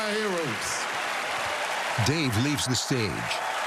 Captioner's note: cheering and applause